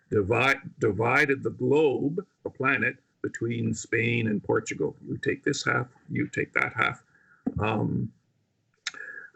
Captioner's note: speaking indigenous language